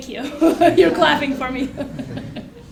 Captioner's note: laugh